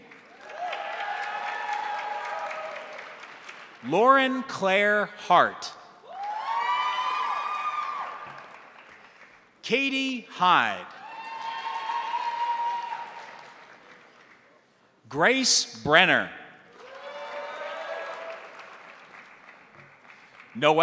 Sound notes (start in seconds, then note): 0.0 crowd applauding; 0.0 crowd cheering; 6.0 crowd cheering; 6.1 crowd applauding; 10.8 crowd applauding; 10.8 crowd cheering; 16.7 crowd cheering; 16.7 crowd applauding